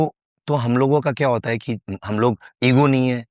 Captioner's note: speaking hindi